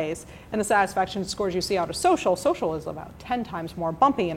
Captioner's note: none